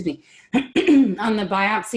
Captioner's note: clearing throat